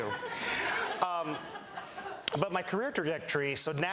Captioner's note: laughter